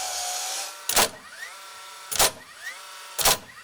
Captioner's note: saw grinding